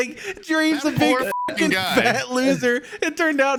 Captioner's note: beeps